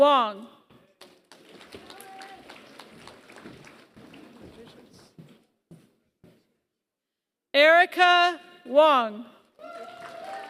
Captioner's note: applause; applause